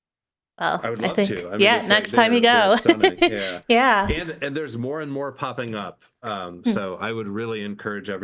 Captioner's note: laughs